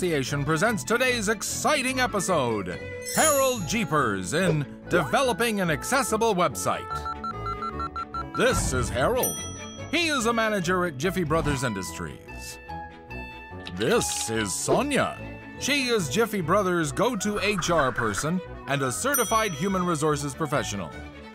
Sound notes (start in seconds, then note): 3.0 chimes; 6.9 fax beeping; 9.2 ding; 13.4 keyboard clicking